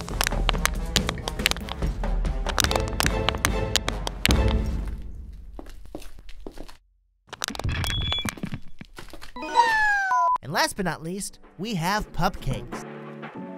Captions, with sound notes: (bottle crunching) (paws thudding) (bottle crunching) And last but not least, we have pupcakes.